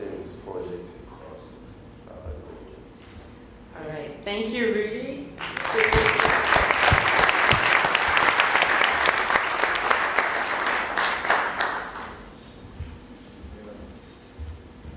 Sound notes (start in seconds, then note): 11.1 applause